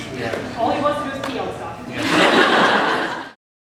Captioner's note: laughter